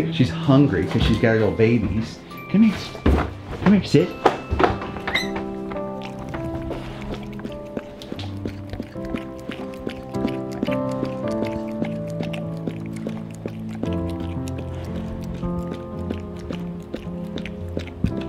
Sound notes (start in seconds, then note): 6.1 dog lapping; 9.1 peaceful music